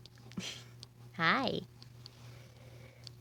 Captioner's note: small chuckle